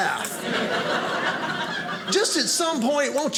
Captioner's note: audience laughing